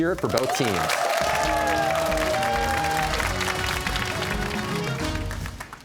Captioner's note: cheers and applause